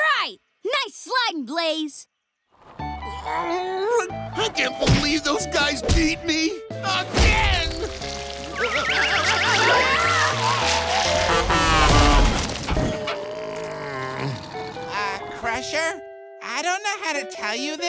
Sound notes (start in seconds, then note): 3.0 groaning; 8.6 screaming; 12.9 groaning